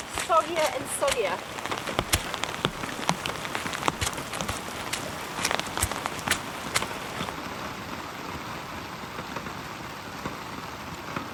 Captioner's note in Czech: Skřípavý zvuk